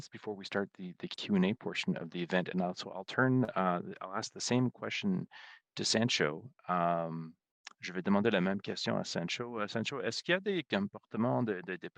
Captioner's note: speaking French